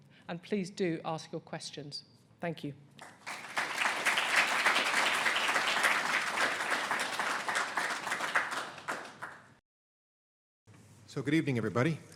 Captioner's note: clapping